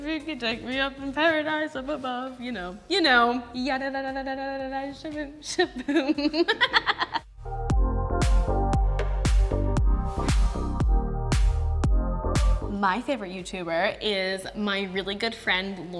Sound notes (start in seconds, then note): 5.5 laughs; 7.6 upbeat music